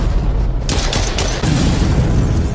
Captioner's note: explosion boom; explosion booms; gun blasts